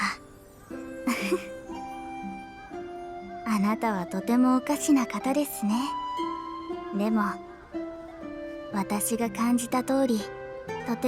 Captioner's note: giggle